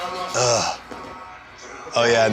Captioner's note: groans